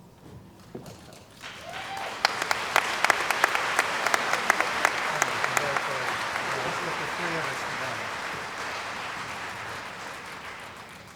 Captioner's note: cheering & Applause